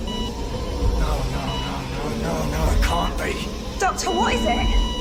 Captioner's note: heart monitor beeps